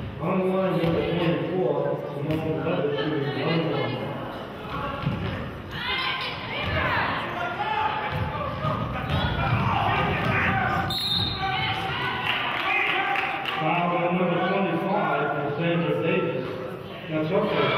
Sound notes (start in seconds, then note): 10.8 whistle blows; 11.2 clapping